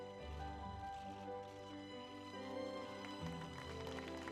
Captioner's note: cameras clicking